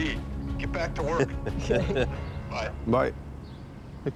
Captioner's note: laughter